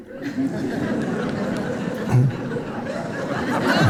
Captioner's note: audience chuckling; Eckhart chortling faintly